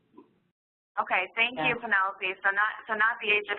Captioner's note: voiceover